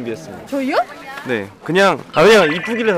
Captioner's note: surprised